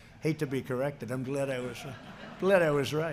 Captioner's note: laughter